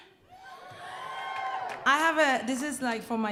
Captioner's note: audience cheering